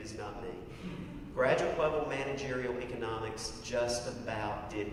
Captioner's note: laugh